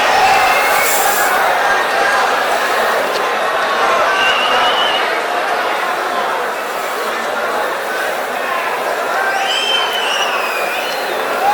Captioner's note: wild applause and cheering for 22 seconds